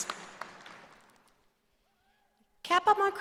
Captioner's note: cheering and applause